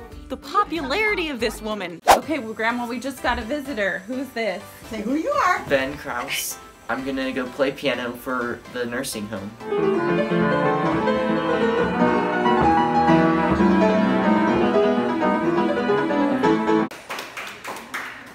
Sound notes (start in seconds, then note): 7.9 upbeat piano music; 15.1 clapping